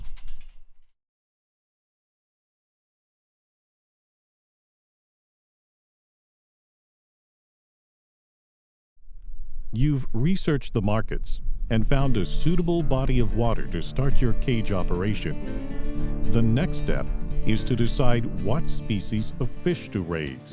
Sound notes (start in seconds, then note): 1.9 no audio